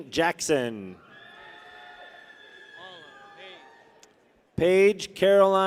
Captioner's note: people cheer